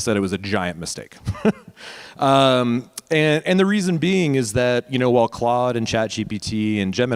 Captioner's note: laugh